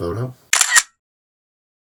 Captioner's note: camera click